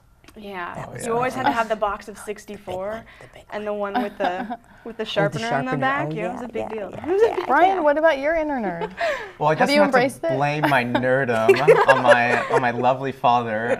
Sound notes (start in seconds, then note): 3.9 laughing; 6.4 laughing; 10.6 laughter